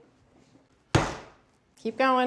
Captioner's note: pounds once